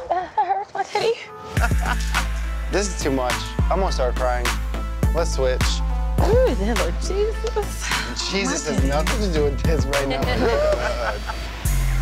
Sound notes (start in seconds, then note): 1.5 laughing; 6.6 sighs; 9.9 laughing; 11.7 suspenseful music